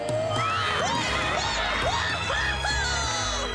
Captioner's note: loud cheers